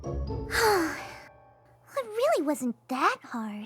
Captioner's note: sighs